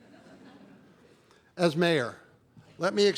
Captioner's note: laughter